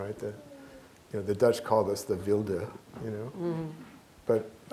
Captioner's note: speaking dutch